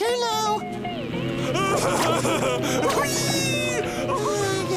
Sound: laughing

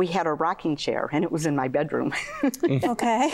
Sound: laughter; laughther

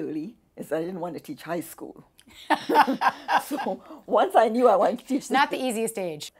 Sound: laughs

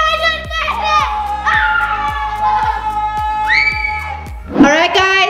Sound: multiple people scream

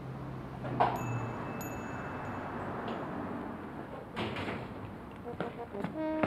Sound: door opens

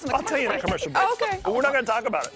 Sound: laughter

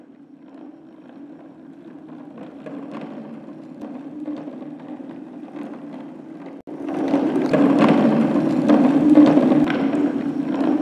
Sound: sound of wheels rolling

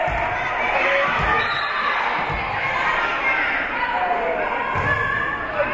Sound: whistle being blown; spectators shouting encouragements

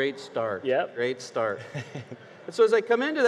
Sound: chuckles

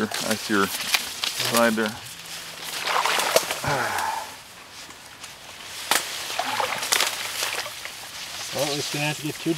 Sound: water sloshing

